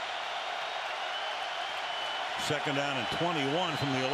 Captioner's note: cheers